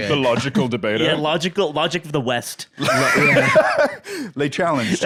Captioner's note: laughs